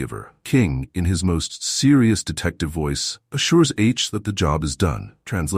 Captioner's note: serious detective voice